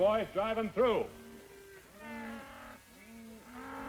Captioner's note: cattle lowing